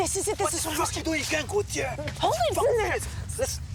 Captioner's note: speaking in foreign language